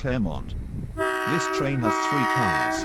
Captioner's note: train honks